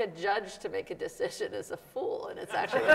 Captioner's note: laughs; audience laughs